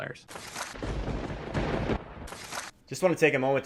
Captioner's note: papers shuffle; thunder booms